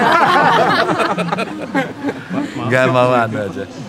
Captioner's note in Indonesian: tertawa